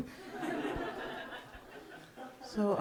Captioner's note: audience laughing